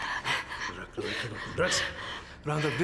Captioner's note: speaking Slavic language